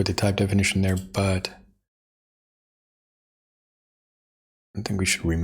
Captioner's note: blank Audio